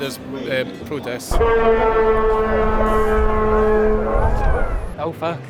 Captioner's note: tractor horn blaring